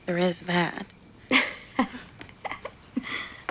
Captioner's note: laughing